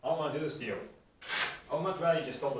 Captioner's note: velcro rip